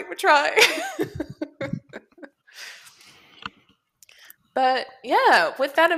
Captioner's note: laughter